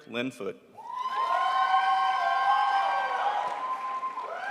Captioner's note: crowd applauds